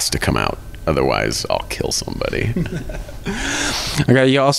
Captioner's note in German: lacht